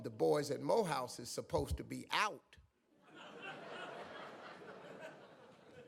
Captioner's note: audience laughs